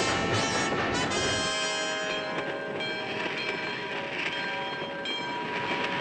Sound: train bells

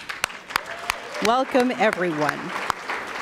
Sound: applause

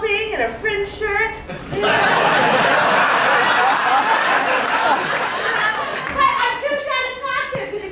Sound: laughter

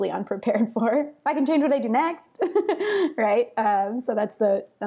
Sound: laughs

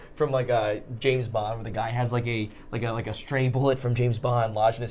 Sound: none

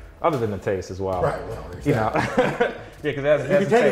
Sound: laughs

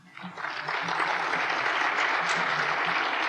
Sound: applause

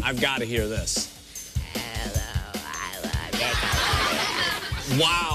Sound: croaking

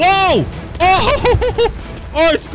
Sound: laughs

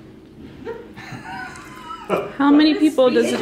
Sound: laughing

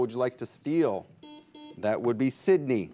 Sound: buzzer beeps

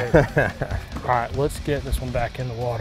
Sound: chuckles

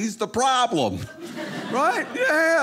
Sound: audience laughing

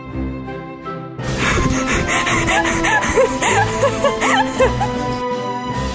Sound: laughing hard; classical music resumes

